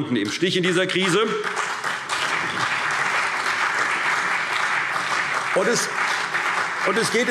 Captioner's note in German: Beifall CDU und BÜNDNIS 90/DIE GRÜNEN